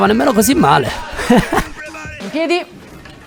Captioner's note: laughter